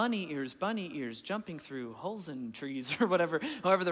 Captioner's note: chuckling